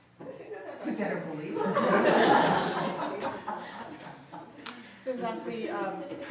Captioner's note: audience laughs